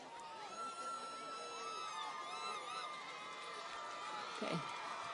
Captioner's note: audience cheers